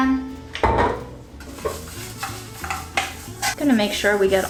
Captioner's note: scraping sound